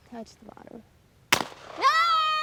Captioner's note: shotgun bangs